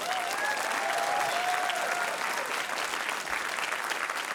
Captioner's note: laughter, cheering, applause